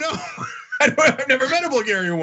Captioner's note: laugh